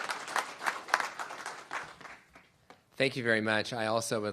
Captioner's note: applause